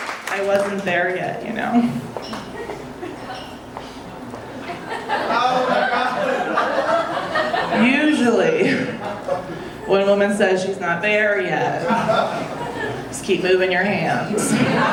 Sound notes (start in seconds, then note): 4.4 audience laughing; 14.2 audience laughing